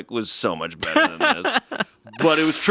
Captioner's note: laughs